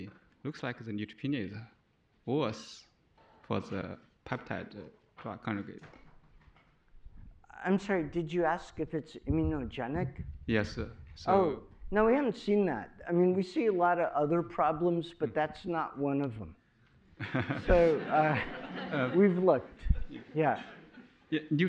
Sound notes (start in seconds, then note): 17.2 laughter